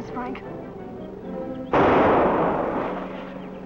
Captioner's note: gunshot